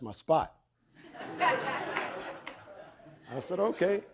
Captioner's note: audience laughing